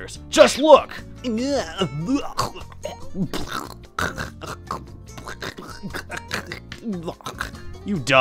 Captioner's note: disgusted gargling